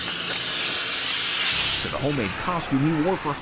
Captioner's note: high-pressured air being sucked through tube